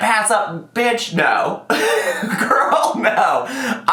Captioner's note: laughs